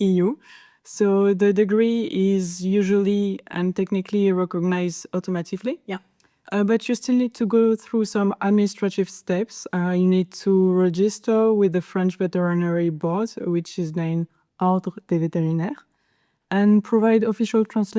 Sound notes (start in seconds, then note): none